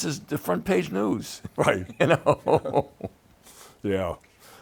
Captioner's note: laughs